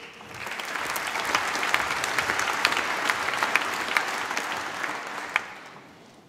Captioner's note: applause